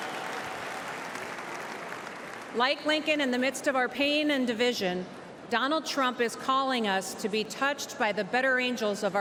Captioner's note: applause